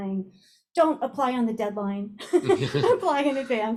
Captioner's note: laugh